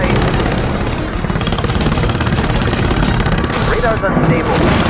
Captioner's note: rescue helicopter approaching